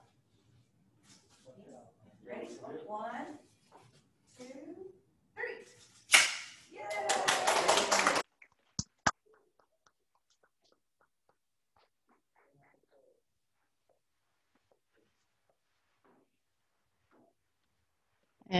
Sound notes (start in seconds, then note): 1.4 background chatter; 6.4 scissors snapping shut; 9.3 clapping and cheering; 11.9 silence